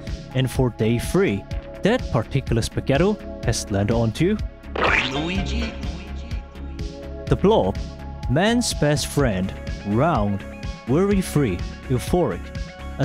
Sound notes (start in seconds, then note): 4.7 Hotel Mario's "Luigi" echoing; 4.8 splatting sound